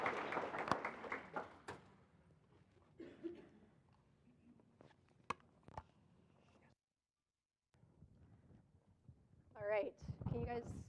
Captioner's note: applause; silence